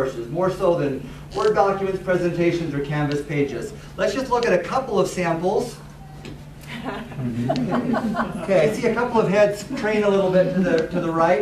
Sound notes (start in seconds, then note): 6.7 laughter